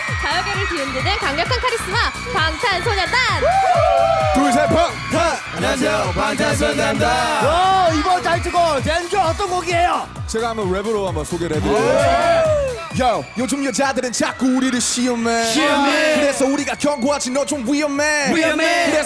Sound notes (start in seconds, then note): 4.0 cheer; 12.2 hosts cheer